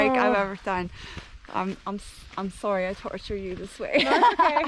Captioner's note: laughter